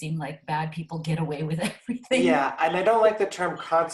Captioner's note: laughs